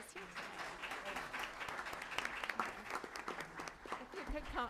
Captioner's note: applause